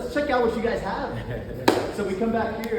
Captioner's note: laughs